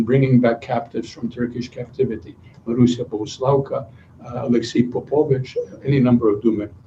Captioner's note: non-english speech